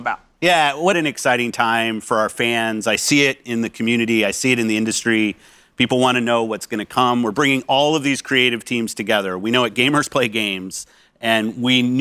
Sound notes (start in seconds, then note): none